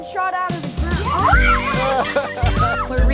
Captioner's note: kids yelp happily; giggles